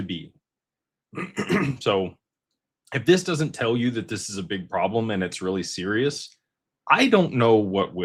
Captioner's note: clears throat